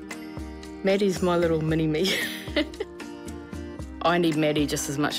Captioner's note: laughs